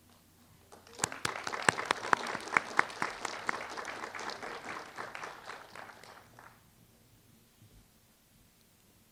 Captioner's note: applause